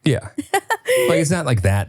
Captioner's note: laughing